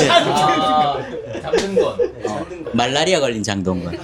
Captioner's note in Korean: 웃음